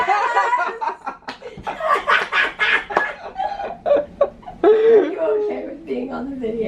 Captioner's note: laughter